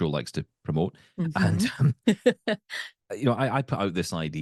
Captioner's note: laughing